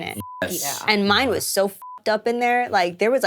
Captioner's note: beep